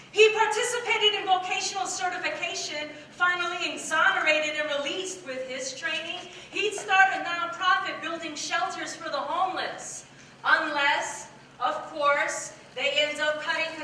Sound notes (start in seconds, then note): none